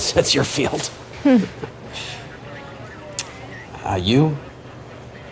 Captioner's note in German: Agent kichert